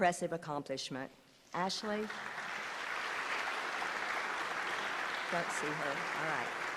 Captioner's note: applause